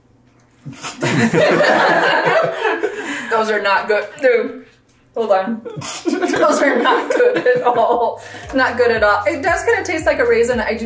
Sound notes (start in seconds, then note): 0.7 both laughing; 5.7 laughs